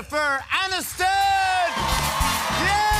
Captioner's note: cheers and applause